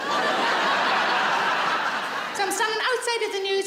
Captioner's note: audience laughs